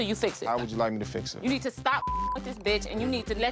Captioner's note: beep